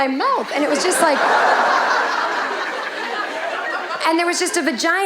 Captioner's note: audience laughing